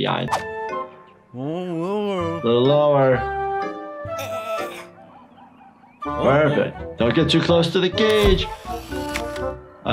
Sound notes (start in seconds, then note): 1.3 fun music; 4.2 sniffles groaning; 8.5 camera clicking